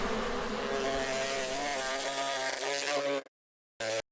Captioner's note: bees humming; bee buzzing